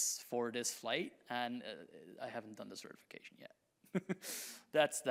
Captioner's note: chuckles